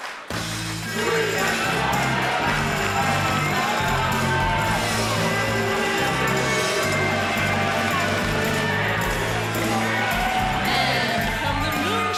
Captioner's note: crowd cheering